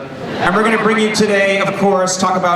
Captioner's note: laughing